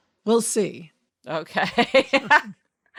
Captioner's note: laughs